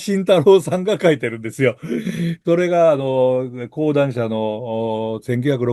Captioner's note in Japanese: 咳払い